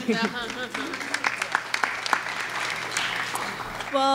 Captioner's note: clapping